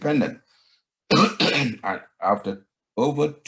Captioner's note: coughing